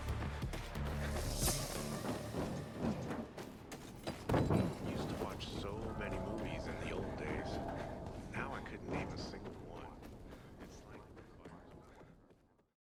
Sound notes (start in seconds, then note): 1.6 dramatic video game music; 1.6 movement effects rumbling